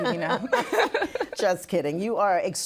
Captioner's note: laughing